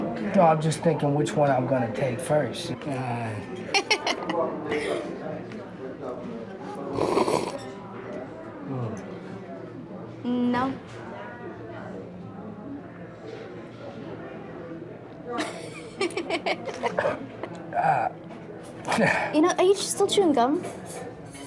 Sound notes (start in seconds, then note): 3.8 laughs; 6.8 slurping; 12.4 laughs